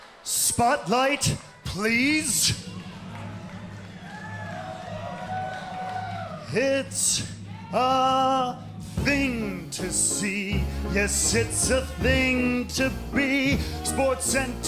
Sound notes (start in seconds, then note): 2.4 crowd cheering